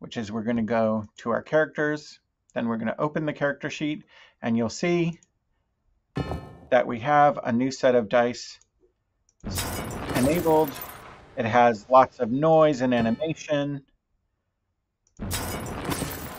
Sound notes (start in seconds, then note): 6.2 die clangs metallically